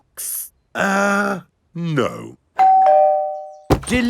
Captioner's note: doorbell rings